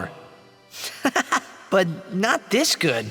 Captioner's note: laughs